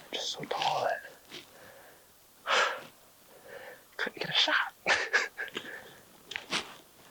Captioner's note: laughs